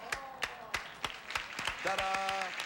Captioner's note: audience applauding